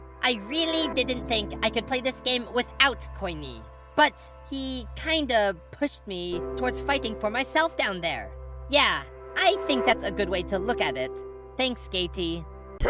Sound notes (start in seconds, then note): none